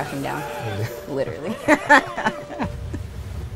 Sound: laughing

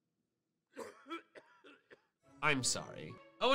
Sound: coughing

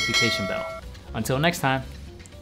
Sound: bell dings

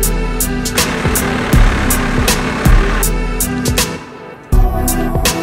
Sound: tractor engine rumbles

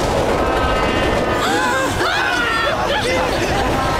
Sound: gasping, screaming

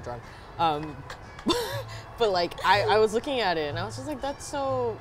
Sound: scoffs

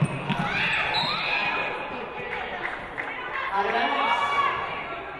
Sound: referee blows whistle

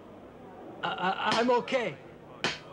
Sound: stuttering

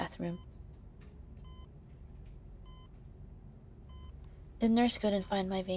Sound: heart monitor beeping

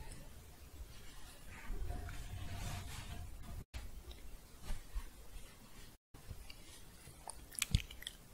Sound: shuffling

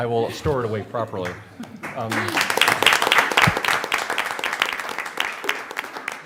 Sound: laughter; applause

